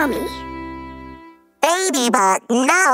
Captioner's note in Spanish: none